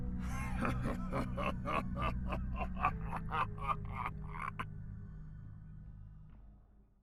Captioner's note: Forgotten History laughs sinisterly